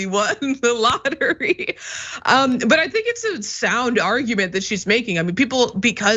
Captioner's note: laugh